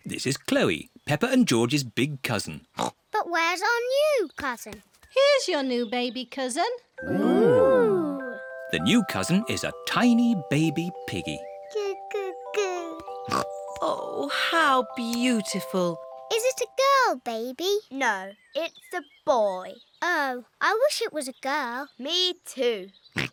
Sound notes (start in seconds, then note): 2.7 oinks; 13.2 snorts